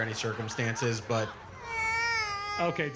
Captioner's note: cries